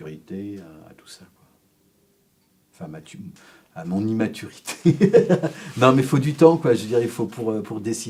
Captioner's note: laughs…